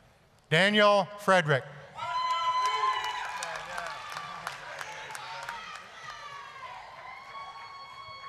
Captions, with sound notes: DANIEL FREDERICK... (applause, cheering)